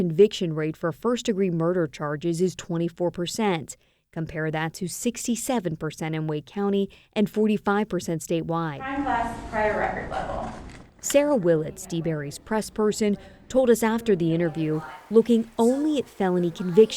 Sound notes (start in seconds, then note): none